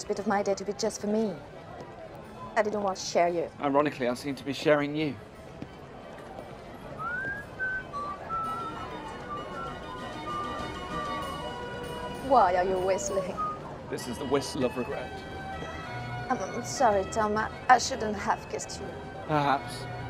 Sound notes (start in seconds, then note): 6.9 whistling